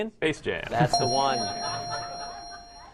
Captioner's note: ding; laughter